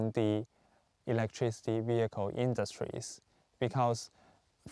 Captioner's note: speaking Chinese